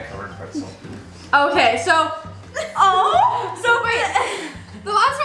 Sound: laughs

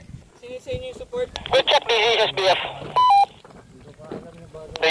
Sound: radio

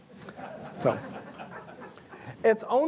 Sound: audience laughs

